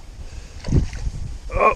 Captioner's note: splash